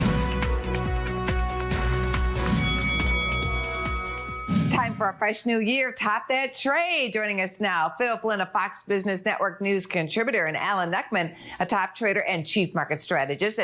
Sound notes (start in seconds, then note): 2.4 bell dings